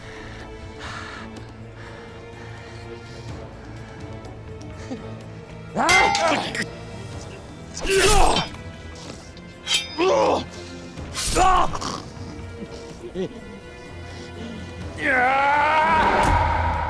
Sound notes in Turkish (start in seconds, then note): 0.0 Nefes sesi; 5.8 Dövüş sesleri